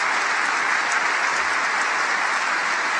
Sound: applause

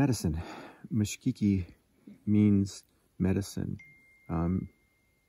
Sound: foreign language; phone dings; foreign language

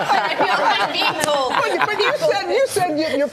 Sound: laughter

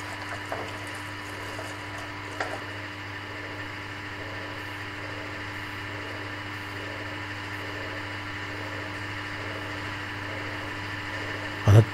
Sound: noise of the pump in the background

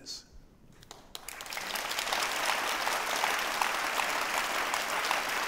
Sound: audience applauds

